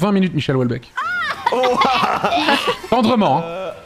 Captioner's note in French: tousse de dégoût